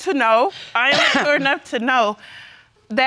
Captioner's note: coughs